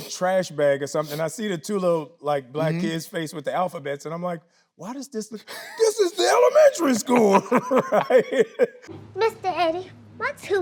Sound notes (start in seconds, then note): 8.1 both laughing